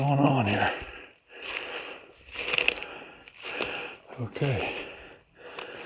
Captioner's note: leaves crunching